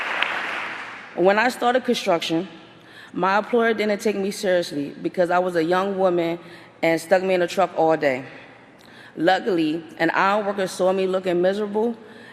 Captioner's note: applause